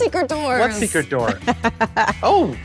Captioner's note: laughing